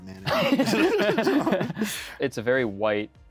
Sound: both chuckle

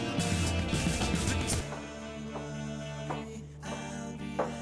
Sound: steps approaching

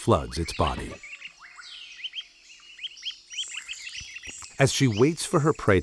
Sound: birds tweeting

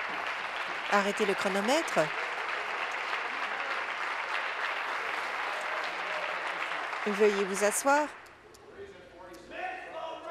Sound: applause

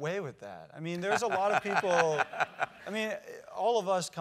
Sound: laugh

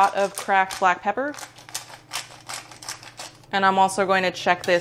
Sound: pepper grinder grinding

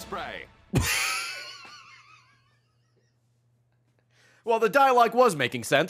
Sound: laughs

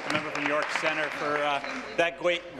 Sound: applause

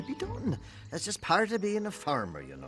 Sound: sighs

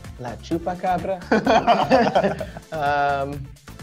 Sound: both laugh

